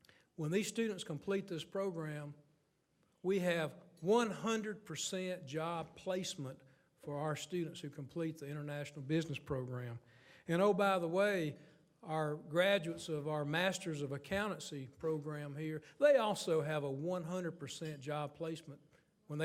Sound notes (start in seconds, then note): none